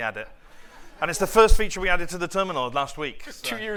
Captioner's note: laughter